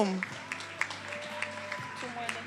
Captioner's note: attendees applauding and cheering